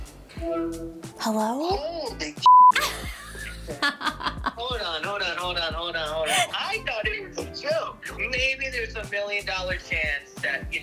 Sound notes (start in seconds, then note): 0.4 FaceTime acception tone; 2.4 beep; 2.7 laughing